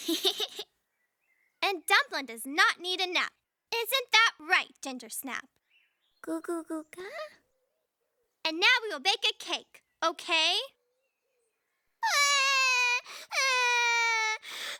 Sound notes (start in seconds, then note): 5.3 babbles; 12.0 sobbing